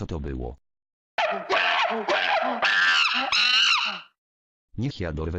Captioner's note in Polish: Małpie darcie ryja